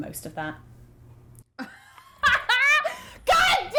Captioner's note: laughing